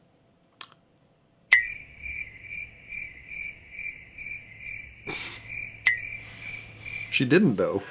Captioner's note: crickets